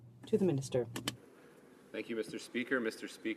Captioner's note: speaking in french